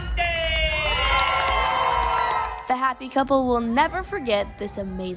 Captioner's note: applause